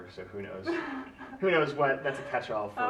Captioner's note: laughs